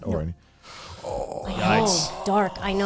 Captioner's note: guys groaning